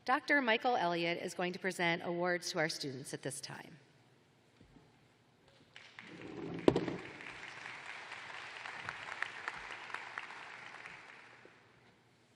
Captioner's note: applause